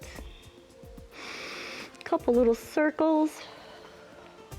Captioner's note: inhales